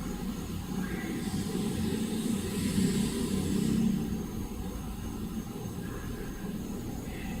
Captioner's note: hissing; whispering